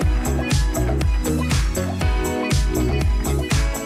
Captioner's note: applause